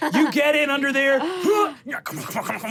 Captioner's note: grunts